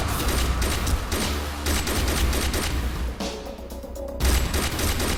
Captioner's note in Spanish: Disparos